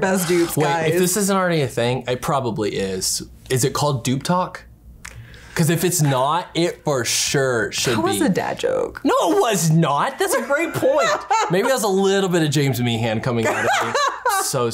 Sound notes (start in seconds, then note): 10.2 laughs; 13.1 laughs